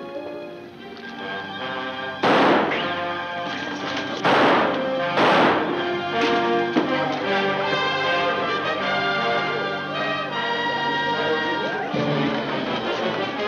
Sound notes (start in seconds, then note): 2.2 gun fires